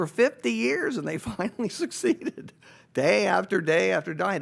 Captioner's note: laughing